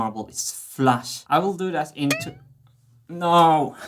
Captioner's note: boing